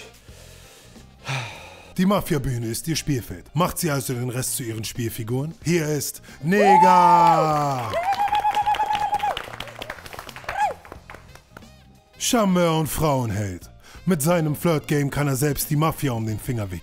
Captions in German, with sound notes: Ha ... Die Mafia-Bühne ist ihr Spielfeld. Macht sie also den Rest zu ihren Spielfiguren? Hier ist Negah. (Jubel, Klatschen) (Leise Musik) Charmeur und Frauenheld. Mit seinem Flirt-Game kann er selbst die Mafia um den Finger wickeln.